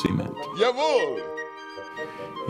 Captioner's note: speaking german